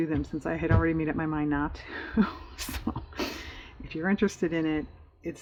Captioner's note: laughs